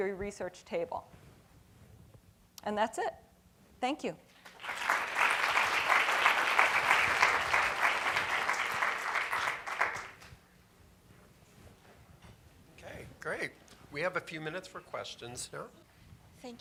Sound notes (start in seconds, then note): 6.5 applause